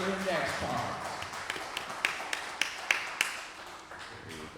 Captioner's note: applause